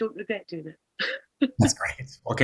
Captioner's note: laughs